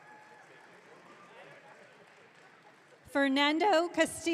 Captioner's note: audience cheering